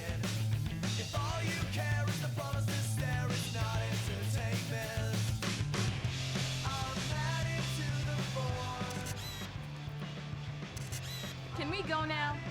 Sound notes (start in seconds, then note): 8.7 shutter clicks/film rewinds